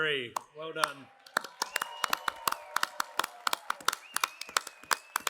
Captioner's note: applause